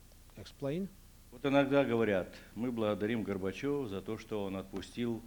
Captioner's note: non-english speech